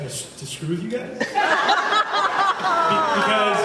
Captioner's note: laughs